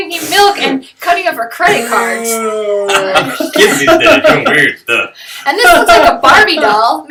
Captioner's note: laughter